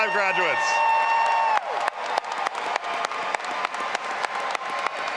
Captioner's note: all applauding and cheering